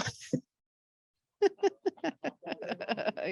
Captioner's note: laughs